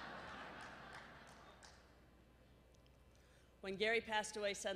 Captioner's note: laughter